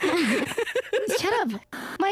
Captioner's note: giggling